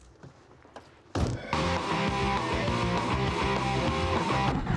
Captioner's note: radio blaring